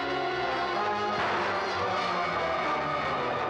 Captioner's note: ominous music; gun fires